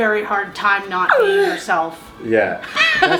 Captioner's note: laughs